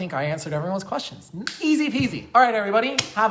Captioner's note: snap